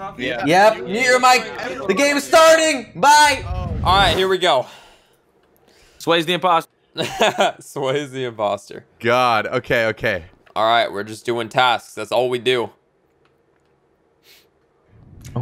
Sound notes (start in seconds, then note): 7.2 laughs